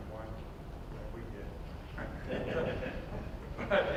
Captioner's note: audience chuckles